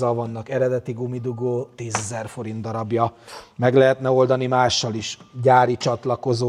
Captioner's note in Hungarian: horkantás